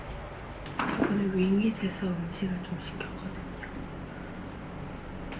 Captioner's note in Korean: 속닥